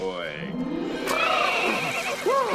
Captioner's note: neighs